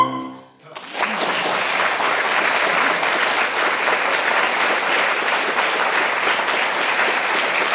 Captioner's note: applause